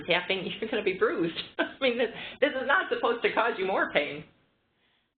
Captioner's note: laughter